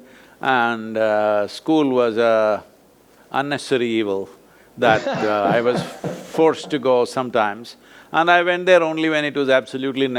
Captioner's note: both laugh